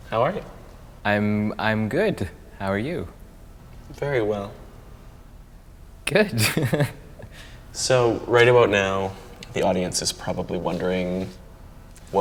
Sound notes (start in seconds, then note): 6.2 laughs